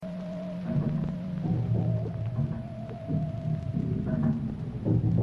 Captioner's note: sci-fi sounds